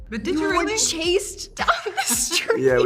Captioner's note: laughing